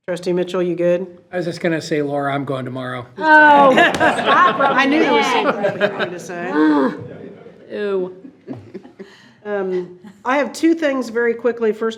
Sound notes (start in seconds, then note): 3.4 board laughs